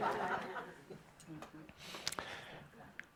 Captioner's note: laughter